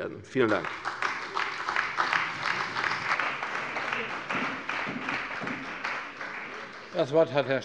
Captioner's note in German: Beifall bei der CDU